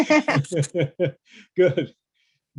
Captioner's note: both laughing